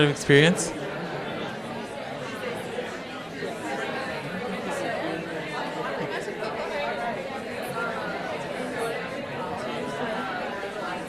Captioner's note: crowd discussing